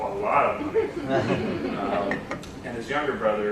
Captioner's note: laughter